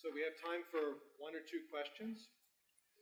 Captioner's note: faintly speaking